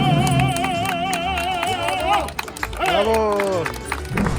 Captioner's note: crowd claps